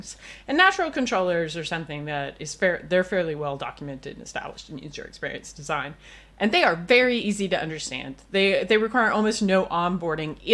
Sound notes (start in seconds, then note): none